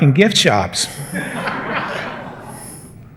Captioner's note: laughter